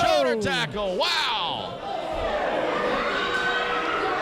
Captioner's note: crowd calls